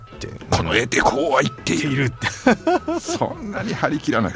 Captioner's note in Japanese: 笑い